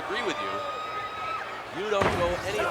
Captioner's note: footsteps plodding; wrestlers grunting